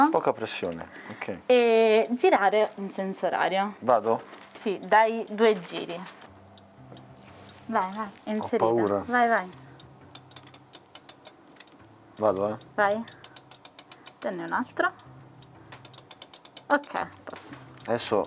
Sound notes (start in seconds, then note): 10.6 winding of clock